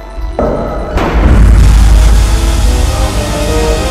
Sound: explosion

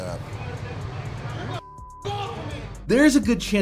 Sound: beep

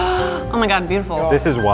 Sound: gasps

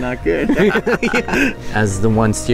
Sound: both laughing

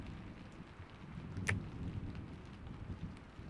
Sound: kiss

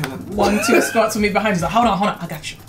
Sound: laughs

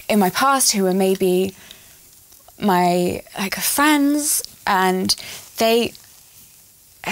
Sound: sigh

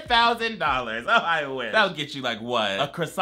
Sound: laughs

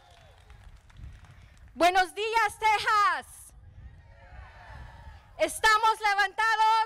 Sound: speaking in foreign language

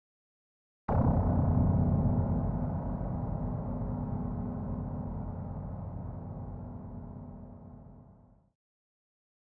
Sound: dark sound

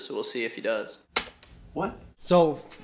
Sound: bangs keyboard

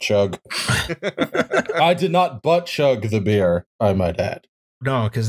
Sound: laughter

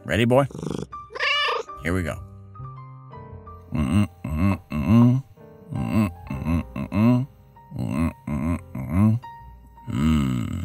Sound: meow

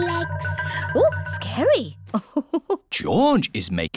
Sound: laughs

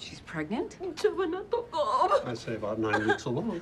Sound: speaking in foreign language

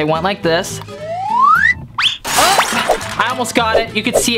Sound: whirling noise

